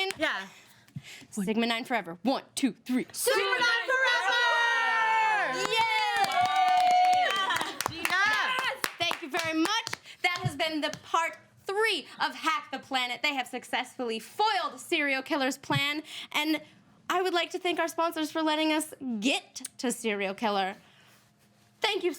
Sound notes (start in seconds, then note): 6.5 all cheering